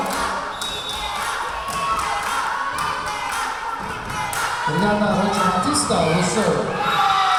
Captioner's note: chanting; whistle blowing; chanting